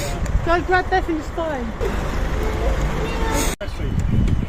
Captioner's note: baby crying